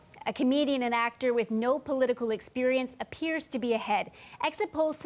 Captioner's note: speaking russian